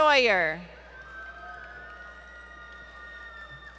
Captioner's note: applause